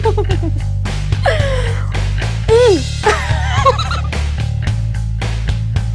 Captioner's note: laughter